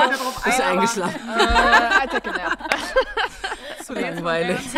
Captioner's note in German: Gelächter